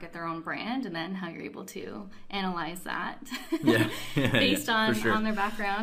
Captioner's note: laughs